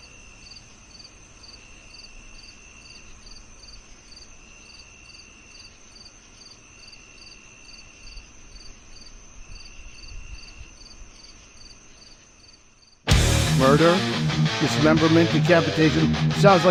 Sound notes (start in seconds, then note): 2.8 crickets chirping; 13.0 upbeat metal music